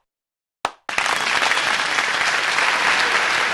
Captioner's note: applause